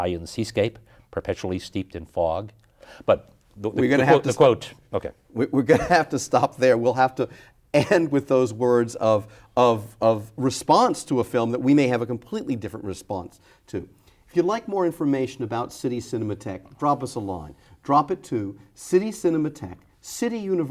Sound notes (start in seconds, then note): 5.6 chuckles